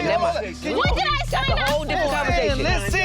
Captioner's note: people yelling at once